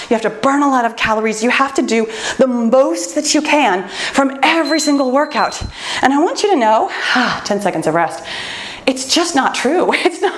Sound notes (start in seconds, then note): 4.4 timer beeps